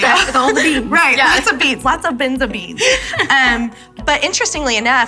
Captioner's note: laughs